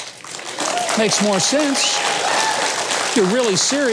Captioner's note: audience cheering